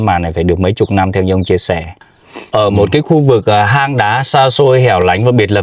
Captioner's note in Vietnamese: khịt mũi